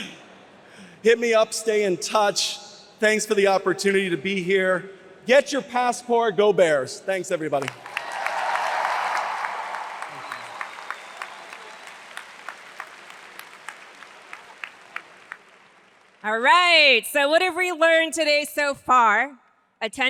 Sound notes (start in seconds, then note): 0.0 laughs; 9.2 audience applauds